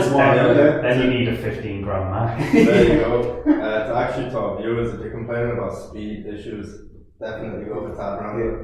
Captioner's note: laughing